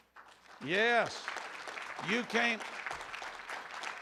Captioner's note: room applauds